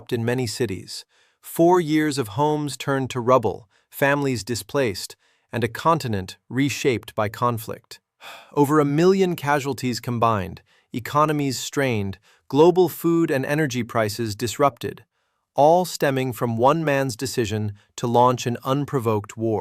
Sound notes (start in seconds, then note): 8.2 sighs